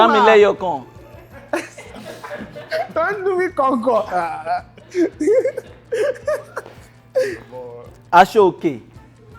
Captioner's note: everyone laughs